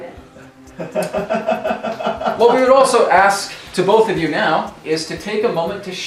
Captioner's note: laughter